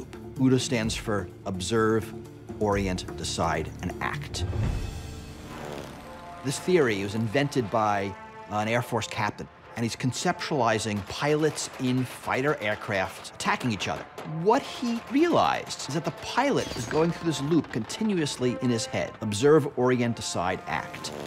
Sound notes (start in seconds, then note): 4.3 dramatic music; 5.4 engines revving; 13.6 bullets firing